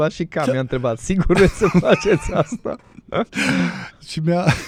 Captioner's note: laughter